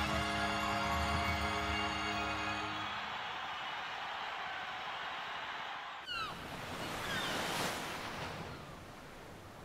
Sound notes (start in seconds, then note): 6.0 birds chirping